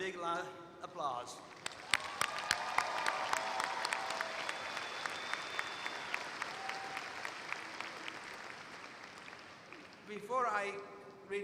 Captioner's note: applause